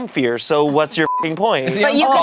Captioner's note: beep